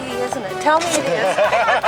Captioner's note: laughter